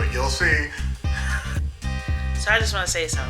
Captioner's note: laughs